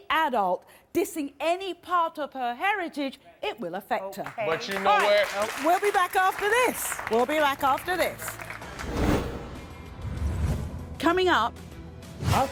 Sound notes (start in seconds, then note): 4.2 crowd applauds; 8.6 dramatic music